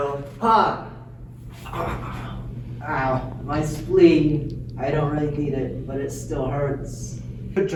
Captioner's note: falling Sounds